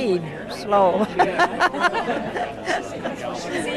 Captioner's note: laughs